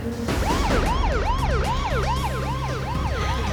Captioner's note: siren blaring